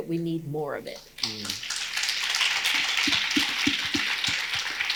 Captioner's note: audience applauding